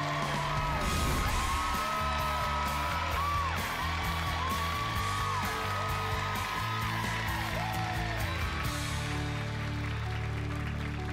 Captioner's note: audience cheering and applauding